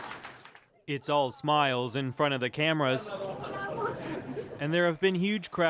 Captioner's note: applause